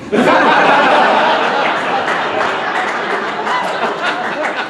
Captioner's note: audience laughing